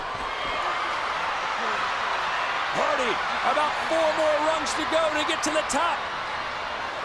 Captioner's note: applause